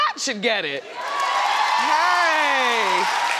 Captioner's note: audience cheers